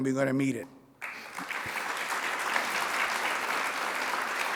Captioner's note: audience clapping